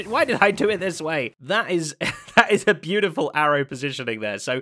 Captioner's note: chuckles